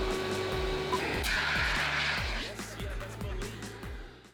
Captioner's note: extinguisher whooshing